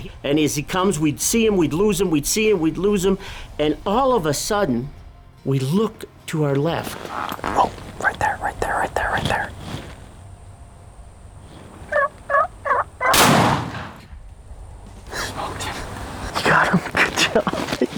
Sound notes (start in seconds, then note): 11.8 turkey call; 13.1 gunshot